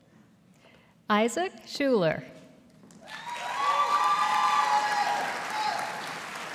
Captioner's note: audience applauding